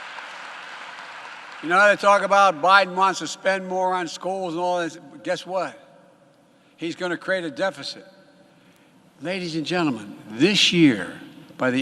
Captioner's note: applause